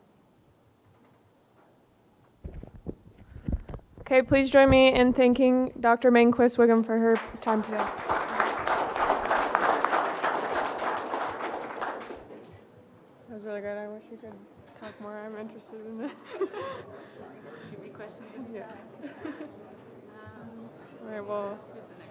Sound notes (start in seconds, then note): 7.2 audience applauding; 15.8 women giggling